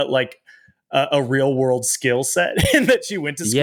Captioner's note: chuckles